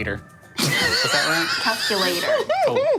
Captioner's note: laughing